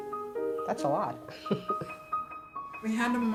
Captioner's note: laughs